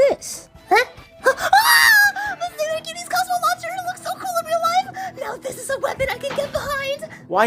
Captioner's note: squeals